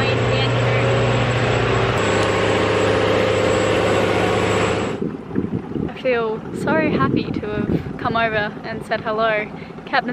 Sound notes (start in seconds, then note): 2.3 loud machinery whirring